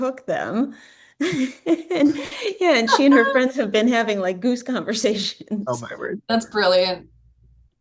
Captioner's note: laughs; more laughing